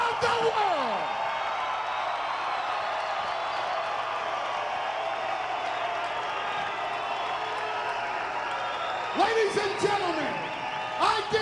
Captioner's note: applause